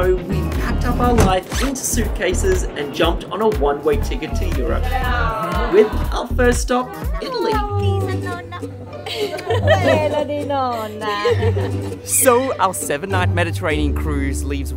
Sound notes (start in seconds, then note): 11.3 laughing